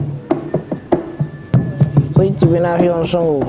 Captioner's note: speaking garífuna´s language